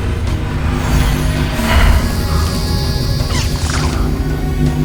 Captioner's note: energy whirring